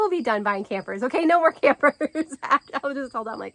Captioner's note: laughs